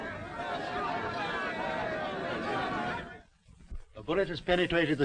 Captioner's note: all chattering